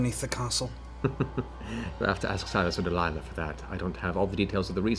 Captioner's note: chuckles